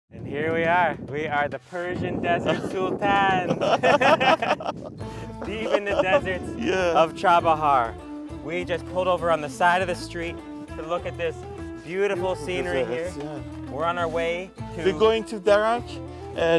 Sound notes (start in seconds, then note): 5.1 laughs